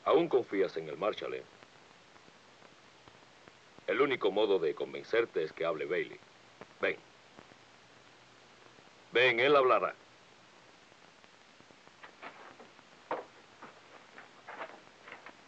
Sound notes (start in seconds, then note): none